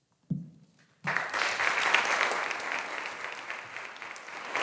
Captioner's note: audience applauding